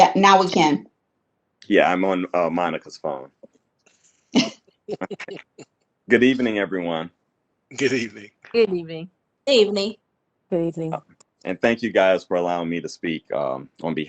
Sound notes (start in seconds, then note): 4.9 chuckles